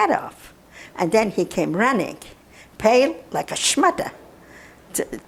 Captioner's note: non-english